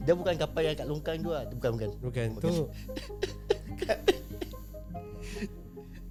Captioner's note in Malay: ketawa